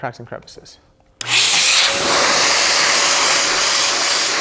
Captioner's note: blower blowing